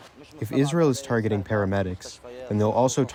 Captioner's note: through translator